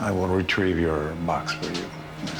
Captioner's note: suspenseful music; door opens